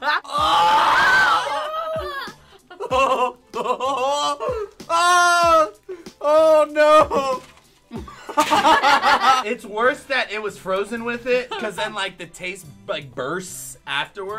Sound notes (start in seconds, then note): 0.1 groaning; 2.6 laughing; 7.9 all laughing